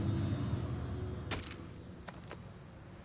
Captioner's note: camera clicks